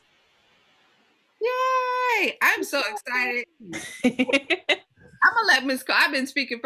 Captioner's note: laughter